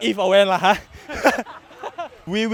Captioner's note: everybody laughs